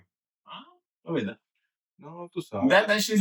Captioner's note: speaking In Foreign Language